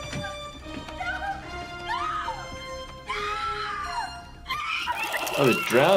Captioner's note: screaming